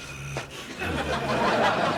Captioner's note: laughter